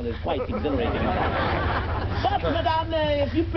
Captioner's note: audience laughs